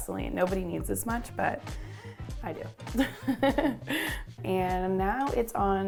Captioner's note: giggles